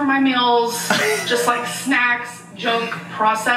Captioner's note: laughs